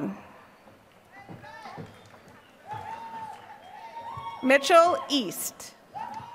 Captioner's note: applause